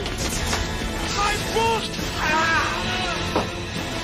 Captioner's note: screaming